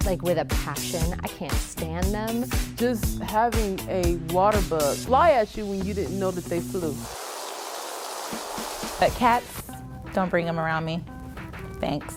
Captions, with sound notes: like with a passion. I can't stand them. - Just having a water bug fly at you when you didn't know that they flew. (bugs buzz loudly) - Cats, don't bring 'em around me, thanks.